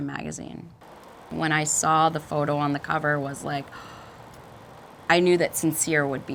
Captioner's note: gasps